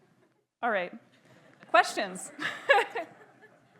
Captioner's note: laughs